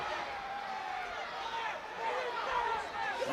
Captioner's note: crowd chatter